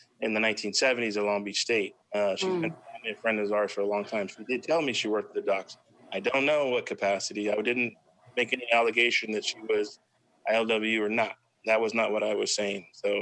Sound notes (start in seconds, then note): 2.6 faintly speaking